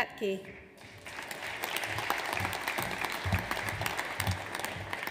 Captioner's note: audience applauds